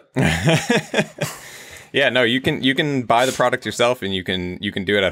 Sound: chuckles

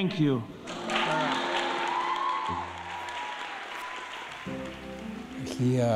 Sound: applause

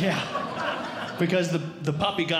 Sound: audience Laughing

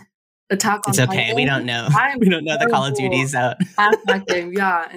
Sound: chuckles

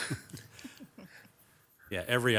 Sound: person laughing

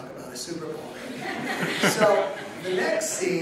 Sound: audience laughing

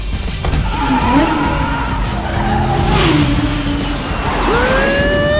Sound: tires screeching

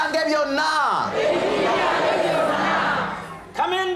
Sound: audience repeats in local language

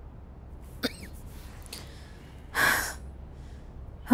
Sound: coughs

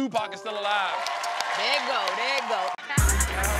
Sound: audience cheering

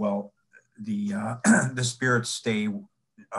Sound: clears throat

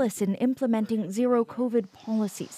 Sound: speaking alternate language

